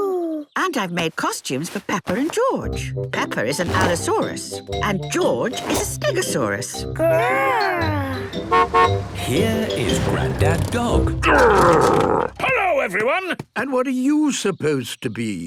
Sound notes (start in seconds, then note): 8.2 horn honking